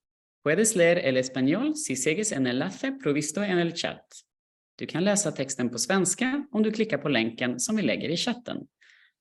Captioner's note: non-English language